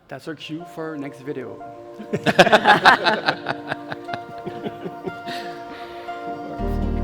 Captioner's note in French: rires